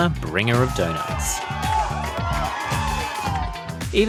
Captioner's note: cheering